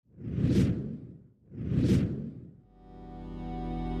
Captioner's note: air swooshing; ambient music